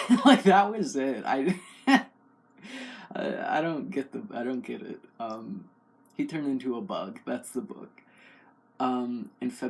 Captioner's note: laugh